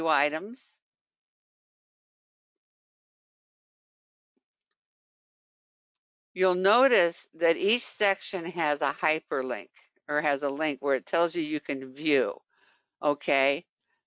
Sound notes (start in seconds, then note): 1.0 5 seconds pause